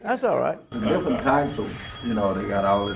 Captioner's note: phone ringing